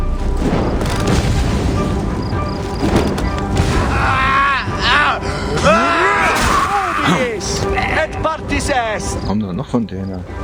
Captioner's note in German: schreien; stöhnen